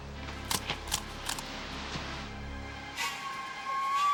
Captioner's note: grass rustling